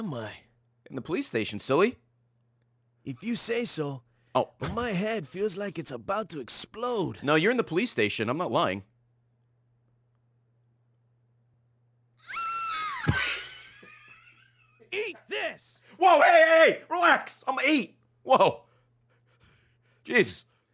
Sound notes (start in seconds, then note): 12.2 screams; 12.3 laughs